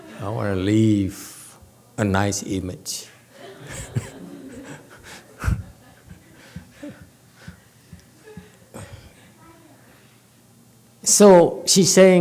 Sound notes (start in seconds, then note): 3.4 laughs, audience laughs